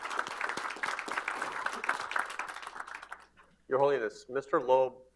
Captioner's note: applause